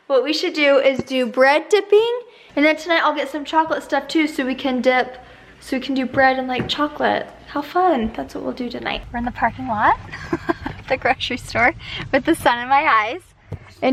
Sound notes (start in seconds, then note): 10.1 laughs